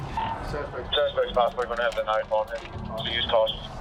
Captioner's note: police radio chatter